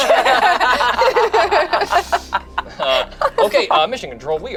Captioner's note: everyone laughing